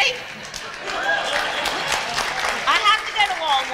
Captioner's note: applause